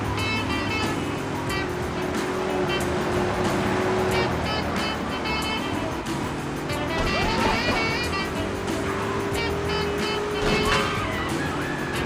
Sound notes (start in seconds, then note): 6.6 muffled yelling; 10.4 gun firing